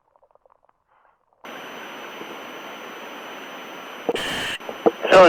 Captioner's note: equipment hissing